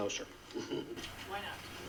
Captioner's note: reporter laughs